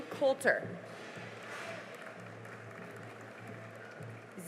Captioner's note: cheering and applause